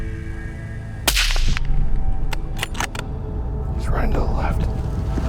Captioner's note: gun bangs and clicks